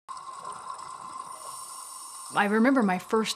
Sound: breathing thru oxygen tank

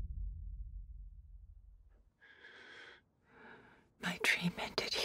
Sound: breathes heavily

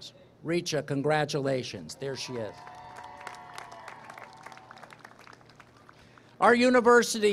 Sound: applause, cheering

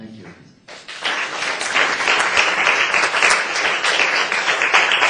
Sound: applause

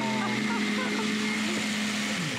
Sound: laughter

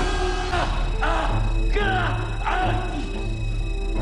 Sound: beeping; dramatic music

